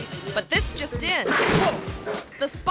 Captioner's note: spotlight clangs